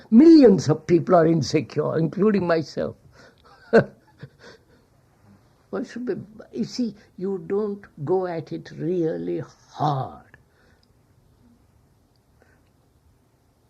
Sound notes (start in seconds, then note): 3.4 laughs